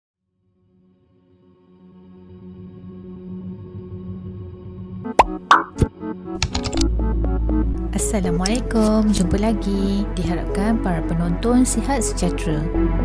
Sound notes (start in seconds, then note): 6.4 typing sound